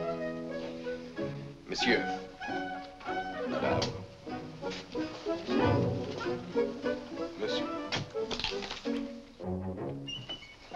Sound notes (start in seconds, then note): 8.2 Crunch